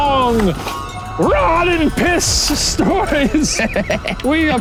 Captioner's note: laughing